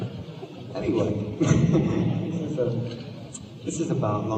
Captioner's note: laughs